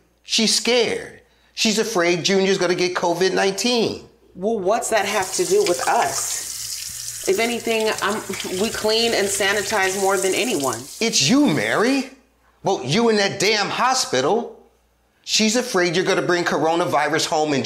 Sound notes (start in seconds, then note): 6.4 water trickling